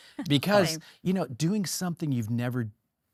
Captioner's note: laughs